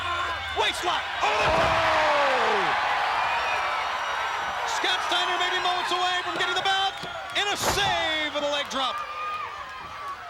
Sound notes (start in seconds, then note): 1.6 crowd groaning